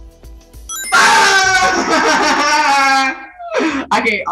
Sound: Jack scream and laugh

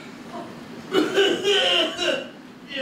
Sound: coughing

